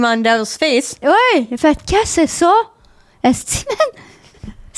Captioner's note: in french